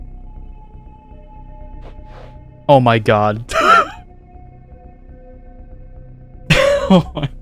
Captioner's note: tired laugh; laughs in pure disbelief